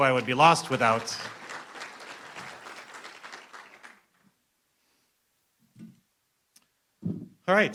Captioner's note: applause